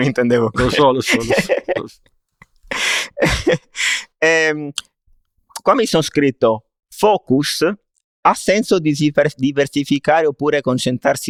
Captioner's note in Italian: risate